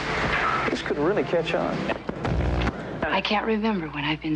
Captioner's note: static/channel changing